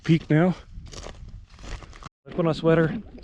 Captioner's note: gravel crunching